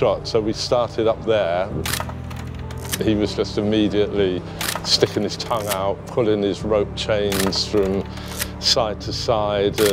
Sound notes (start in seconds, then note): 1.8 camera shutter clicking